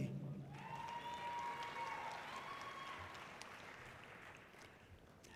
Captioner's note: audience cheering loudly